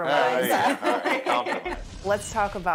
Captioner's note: laughs